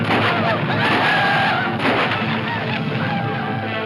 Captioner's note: guns banging